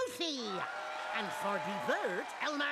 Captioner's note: audience cheering